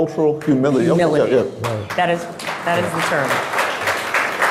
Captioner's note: crowd clapping